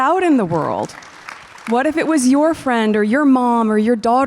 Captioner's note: audience applause